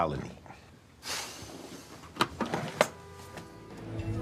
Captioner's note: sighs